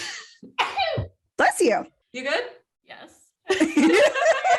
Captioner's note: sneeze